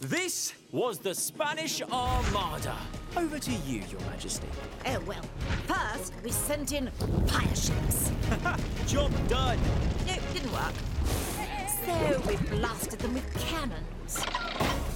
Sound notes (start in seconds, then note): 8.2 chuckling